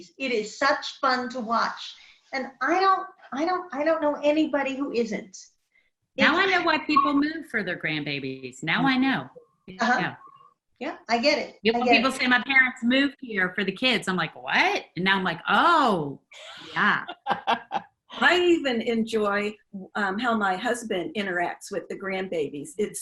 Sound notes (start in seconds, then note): 16.4 woman laughs